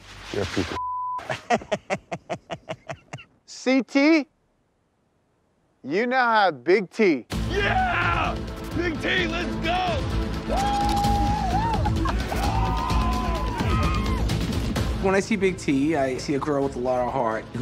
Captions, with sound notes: - You're a piece of (beep). (laughing) - CT? You now have Big T. - Yeah! Big T, let's go! Woo! - When I see Big T, I see a girl with a lot of heart.